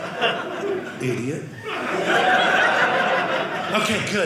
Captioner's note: audience laughing; audience laughing